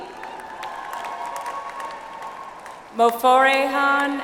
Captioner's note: audience applauds